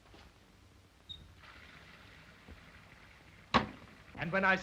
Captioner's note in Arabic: الماء الجاري